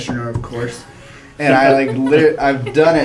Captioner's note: laugh